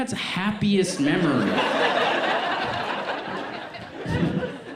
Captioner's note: audience laughs